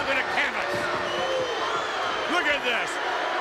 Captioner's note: crowd whistles